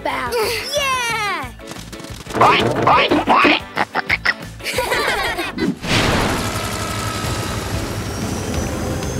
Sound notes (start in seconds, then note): 2.3 oinking; 4.3 laughing